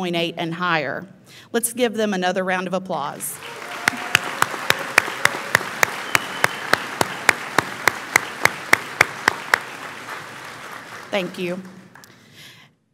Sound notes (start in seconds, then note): 3.2 audience applauds; 3.3 audience cheers